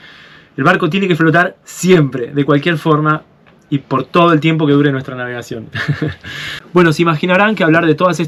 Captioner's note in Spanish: risas